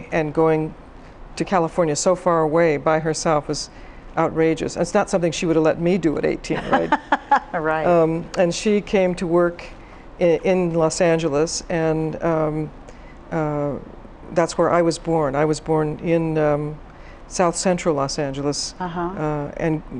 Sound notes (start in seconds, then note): 6.5 laughs